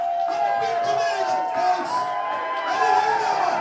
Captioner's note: crowd cheering